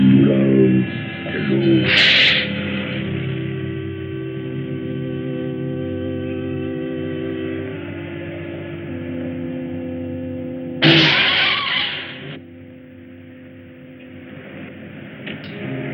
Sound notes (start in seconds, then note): 1.9 sniffs